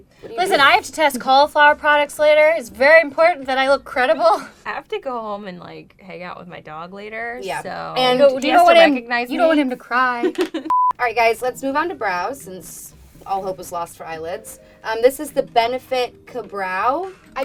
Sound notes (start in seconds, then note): 10.2 laughs; 10.6 beep